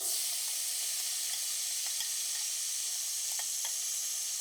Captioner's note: oil sizzling